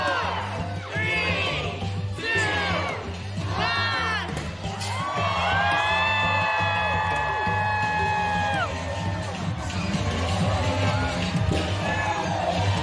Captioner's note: applause